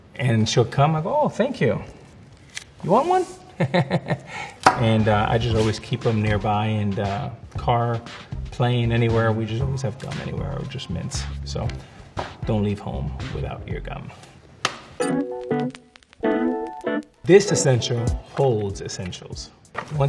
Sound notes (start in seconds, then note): 3.9 laughs